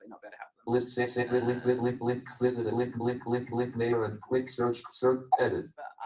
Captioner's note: JAWS speaking disjointedly